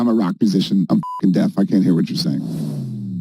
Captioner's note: beep